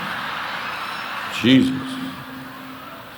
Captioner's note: audience laughing